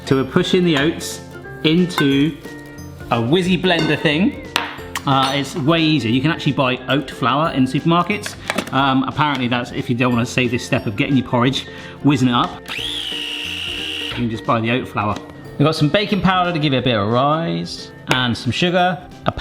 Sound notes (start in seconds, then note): 12.7 processor whirring